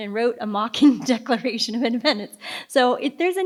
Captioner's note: laughs